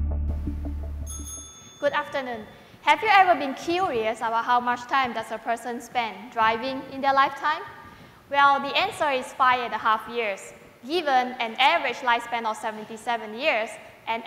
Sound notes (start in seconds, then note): 0.0 background music; 1.0 bell ringing